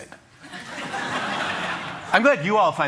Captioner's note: laughter